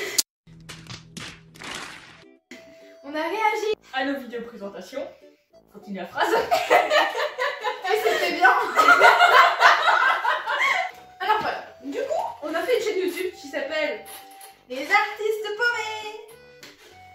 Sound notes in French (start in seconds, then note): 6.3 Rire; 8.5 Triples rires